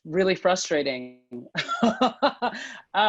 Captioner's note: laughter